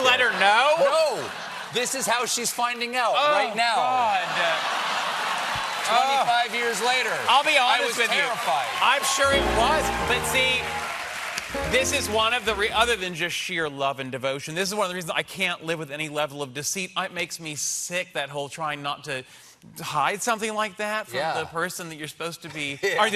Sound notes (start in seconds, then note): 13.6 applause